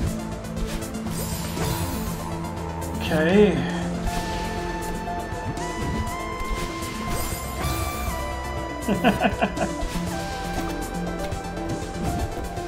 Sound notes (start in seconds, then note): 8.8 chuckles